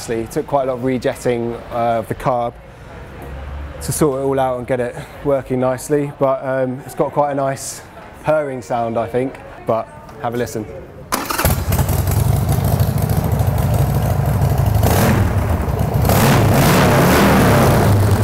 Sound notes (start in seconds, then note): 11.2 engine motor; 13.5 revving